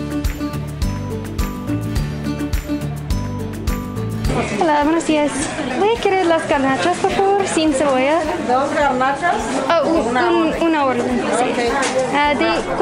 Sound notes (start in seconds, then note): 0.1 upbeat music; 6.0 and vendor speaking Spanish